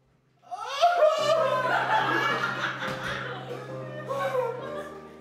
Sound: Peter cries

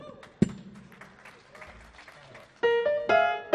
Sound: audience applauding

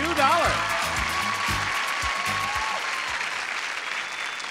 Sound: audience shouting

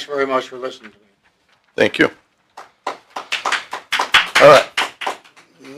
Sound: applause

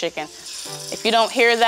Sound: sizzles

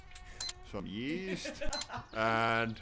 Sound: laughing

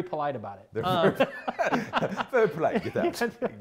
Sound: laughs

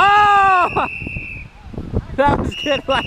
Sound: whistle blowing

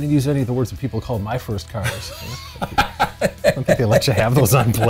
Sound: laughs

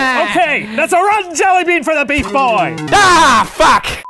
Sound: laughs; yells; fail sting

